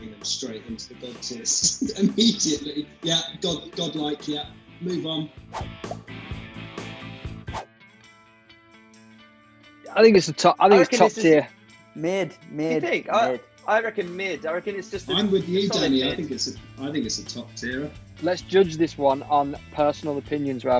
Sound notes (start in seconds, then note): 1.6 laughs; 5.5 swooshing; 7.9 country music